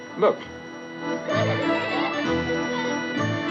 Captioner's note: children giggling